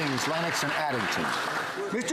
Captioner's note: some Applause